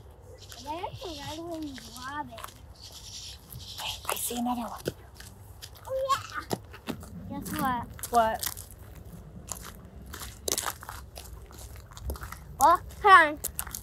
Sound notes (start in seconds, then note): 9.4 gravel crunching